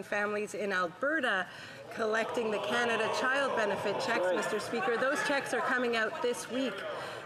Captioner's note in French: voix de l'interprète